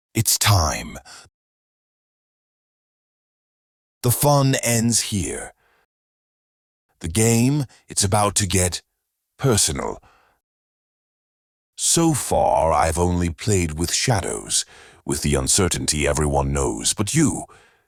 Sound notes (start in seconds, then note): none